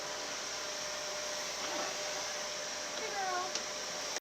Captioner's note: vacuum cleaner continues to hum